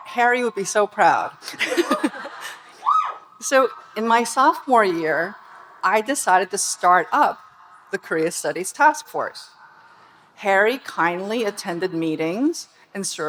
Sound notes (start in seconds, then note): 1.6 speaker laughing; 3.1 audience cheering